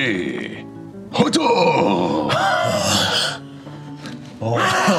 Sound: grunts excitedly

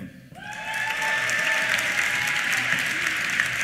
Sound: cheers; applause

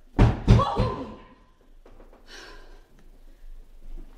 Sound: knocking

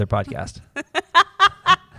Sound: laughter

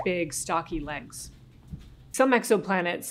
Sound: stomping

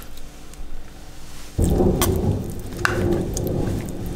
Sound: roaring thunder

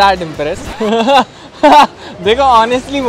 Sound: laughing

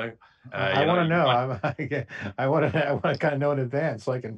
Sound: laughs

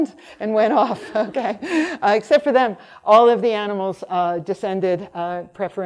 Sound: laughs

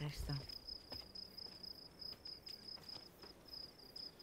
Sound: crickets chirping

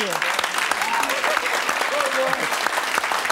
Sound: applause

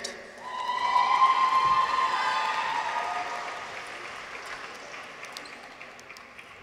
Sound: people cheer; audience applauds

